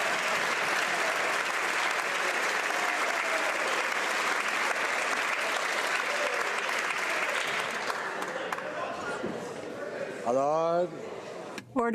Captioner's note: applause